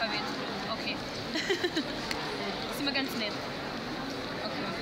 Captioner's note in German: lacht